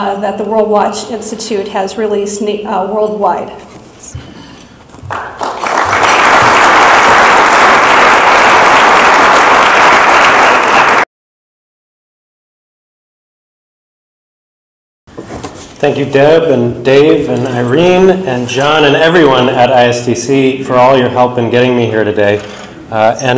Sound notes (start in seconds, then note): 5.0 audience applaud